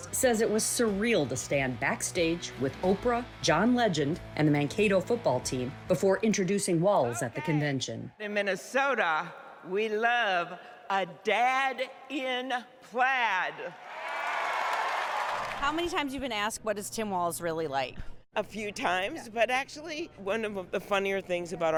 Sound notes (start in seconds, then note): 15.5 applause; 15.5 cheering